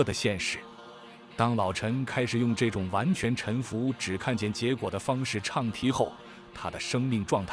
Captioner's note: chanting